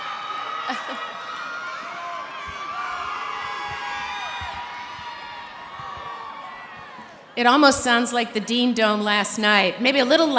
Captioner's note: cheering